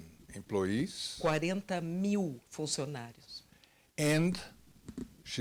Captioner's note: translator speaking Portuguese